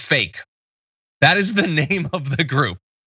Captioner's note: laugh